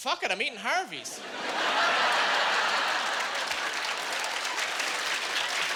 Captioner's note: clapping